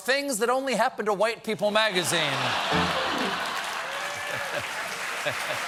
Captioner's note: laughter; piano riff; cheers and applause